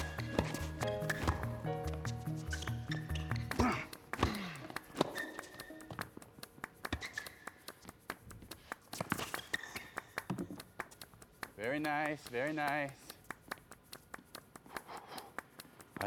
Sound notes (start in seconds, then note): 0.8 rackets smacking; 2.4 footsteps shuffling; 3.5 Marshall grunting; 3.6 Phillip grunting; 3.7 racket smacking; 6.9 racket tapping; 10.2 ball bouncing; 14.8 Marshall blowing